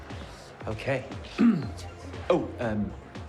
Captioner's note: clears throat